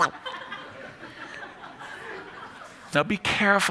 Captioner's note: laughter